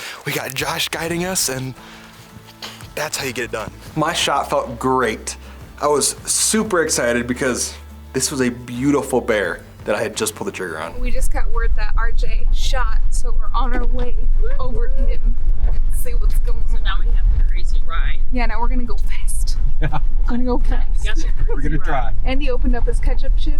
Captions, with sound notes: We got Josh guiding us and that's how you get it done. My shot felt great. I was super excited because this was a beautiful bear that I had just pulled the trigger on. - We just got word that RJ shot, so we're on our way over to him and see what's goin' on. - So now we have the crazy ride. - Yeah, now we're gonna go fast. (driver chuckles) - Oh, no thanks. - Yes. - Well, we're gonna try. - And he opened up his ketchup tube,